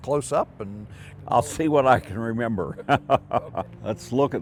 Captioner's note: chuckles